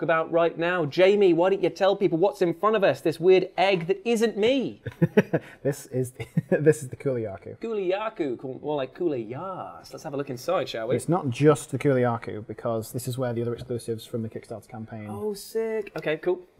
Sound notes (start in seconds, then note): 4.8 laughing